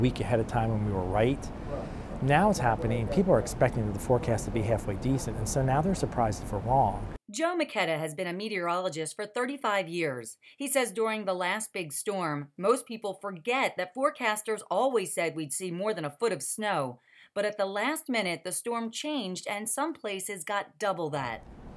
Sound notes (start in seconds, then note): 7.4 voiceover